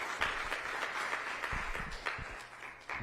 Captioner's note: applause